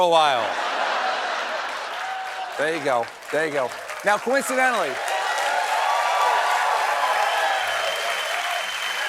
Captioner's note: cheers and applause